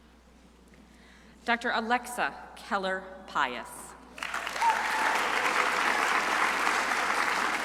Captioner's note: crowd applauding